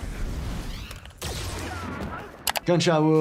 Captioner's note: gun firing